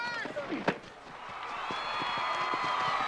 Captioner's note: crowd cheering